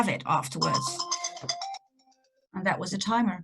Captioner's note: alarm rings